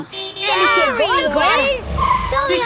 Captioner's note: honking